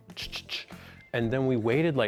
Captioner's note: makes clicking sounds